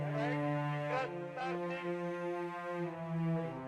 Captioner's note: speaking Russian